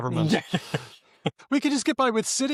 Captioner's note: laughs